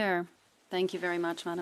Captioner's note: speaking French